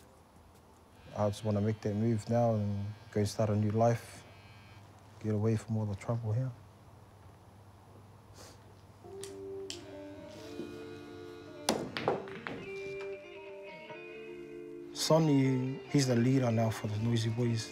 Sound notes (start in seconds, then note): 11.6 balls clack